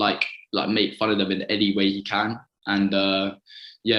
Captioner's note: none